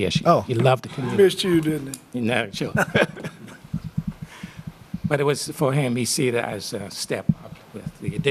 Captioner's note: laughter